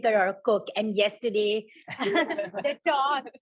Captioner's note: laughter